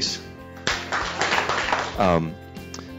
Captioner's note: applause